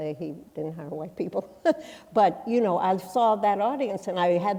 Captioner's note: chuckles